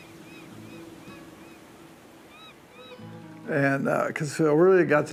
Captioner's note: ocean sounds